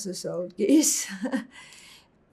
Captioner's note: laughing